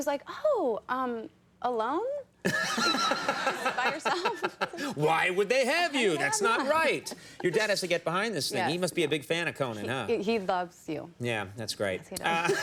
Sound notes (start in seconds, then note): 2.5 audience laughter